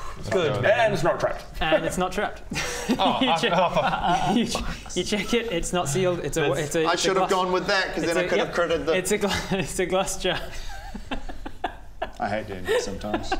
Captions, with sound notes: good Ben And it's not trapped And it's not trapped! Oh You check - you check - f***k's sake you check it, it's not sealed - it's a glass - I should have gone with that cos then I could have - yep! - critted the it's a glass jar *very smug DM giggles* I hate D&D sometimes